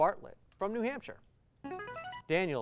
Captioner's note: buzzer